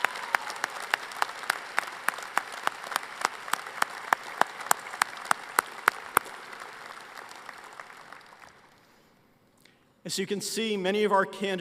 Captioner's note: applause